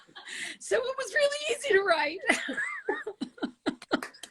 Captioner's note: laughs; laughs